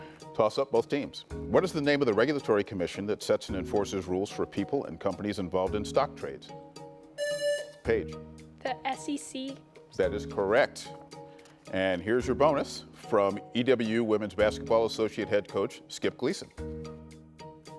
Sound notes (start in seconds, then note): 7.2 buzzer buzzing